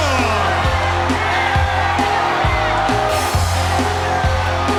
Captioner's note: crowd cheering